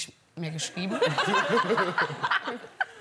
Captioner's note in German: Gelächter